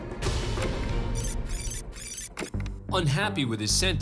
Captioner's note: rewind sounds